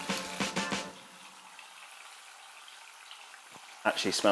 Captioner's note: pan bubbling